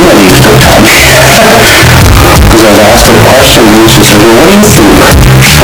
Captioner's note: laughs